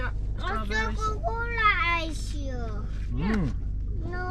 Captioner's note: speaking Dutch